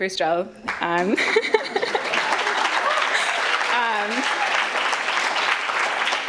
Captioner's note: audience applauds and cheers